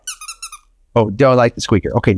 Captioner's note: toy squeaks